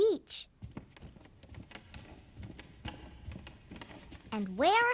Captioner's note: footsteps resounding